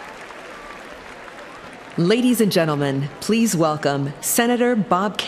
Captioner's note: cheering and applause